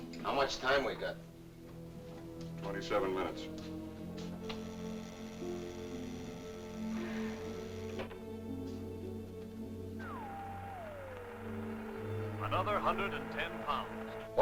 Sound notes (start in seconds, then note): 4.3 buzzing sound; 10.0 radio static